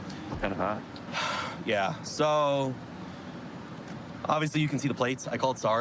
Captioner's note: sighs